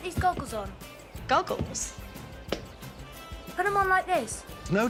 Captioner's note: hands clap